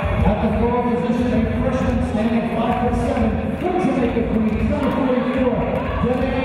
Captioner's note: distorted audio